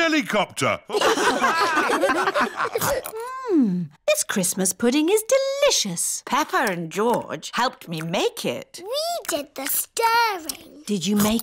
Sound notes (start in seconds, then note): 0.9 all laugh